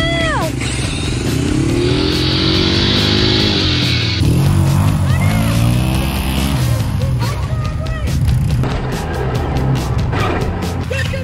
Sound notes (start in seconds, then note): 1.5 car revving; 1.5 motorcycle revving; 6.0 upbeat music; 9.3 car revving